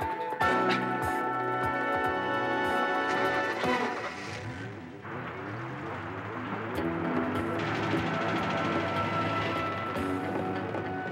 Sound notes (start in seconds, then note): 0.0 upbeat music continues; 3.2 van engine roars